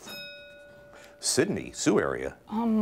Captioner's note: bell rings